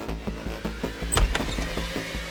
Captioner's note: door opening